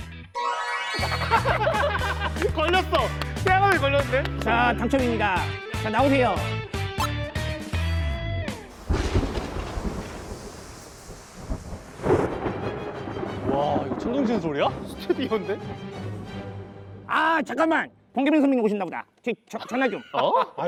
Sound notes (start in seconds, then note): 12.7 the thunder is also audible in the studio